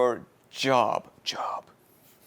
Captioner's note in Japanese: ささやき声で